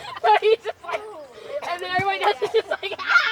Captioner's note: laughing